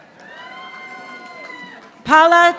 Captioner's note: audience applauding